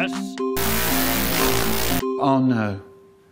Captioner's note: screech